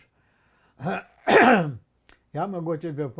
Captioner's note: coughing